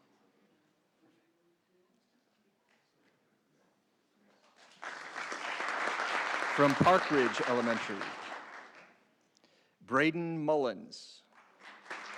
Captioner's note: applause